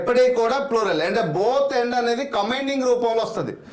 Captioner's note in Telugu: none